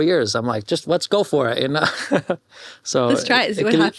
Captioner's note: laughs